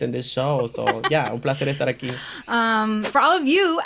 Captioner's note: laughs